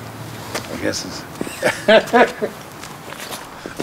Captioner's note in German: Er lacht